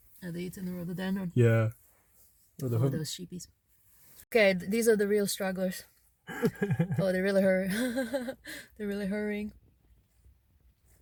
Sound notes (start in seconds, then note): 6.3 laughs